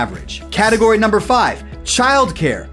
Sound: graphics swish

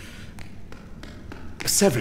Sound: running footsteps

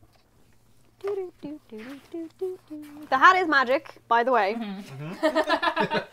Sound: humming

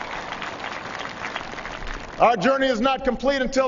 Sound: applause

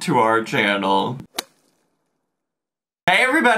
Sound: logo thuds

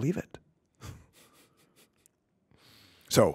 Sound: chuckling

